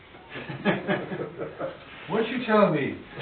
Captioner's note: laughing